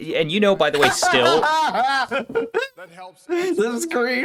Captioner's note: laughs in technical issues